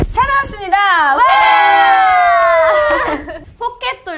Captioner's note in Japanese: 歓声